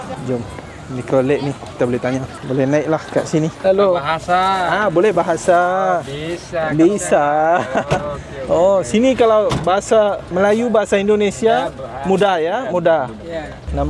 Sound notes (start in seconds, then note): 7.9 laugh